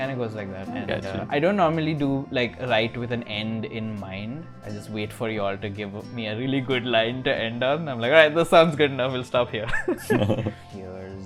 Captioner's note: laughter